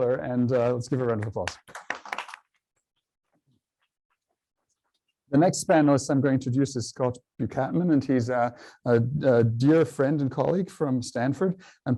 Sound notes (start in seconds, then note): 0.9 applause